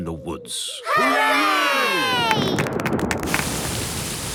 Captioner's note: thunder